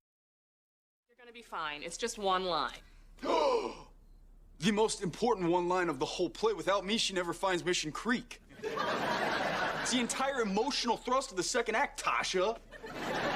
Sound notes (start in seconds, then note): 2.9 gasps